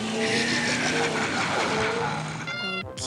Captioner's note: screech